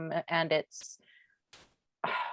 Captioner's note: sighs